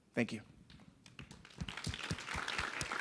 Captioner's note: applause